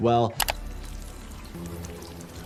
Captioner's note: graphics clicking; suspenseful music; water trickling